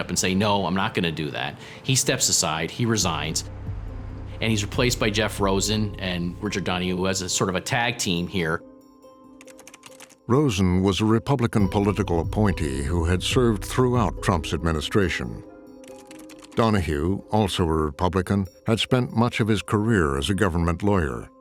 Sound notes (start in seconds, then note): 9.3 keyboard keys clacking